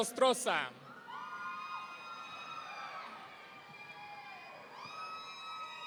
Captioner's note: audience cheering